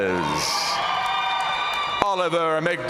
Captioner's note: audience cheering and applauding